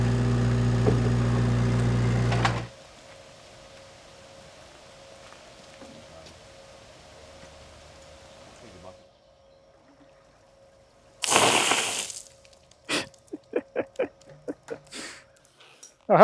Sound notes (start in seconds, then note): 11.2 water splashing; 12.9 laughing